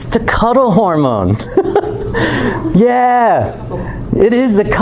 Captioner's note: chuckles